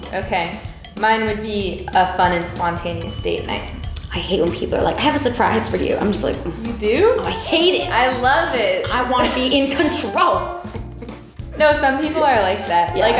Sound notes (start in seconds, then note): 6.7 groans